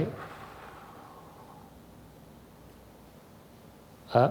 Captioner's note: exhales softly